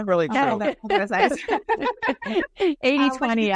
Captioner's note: laughing